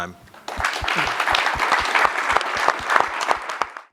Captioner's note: applause